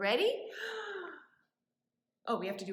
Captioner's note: gasps